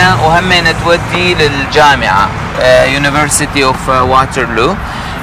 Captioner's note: speaking Arabic